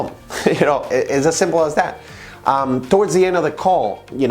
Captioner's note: chuckles